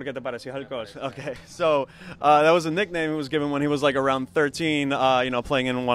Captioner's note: laughs